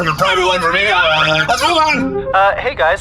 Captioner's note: voicemail plays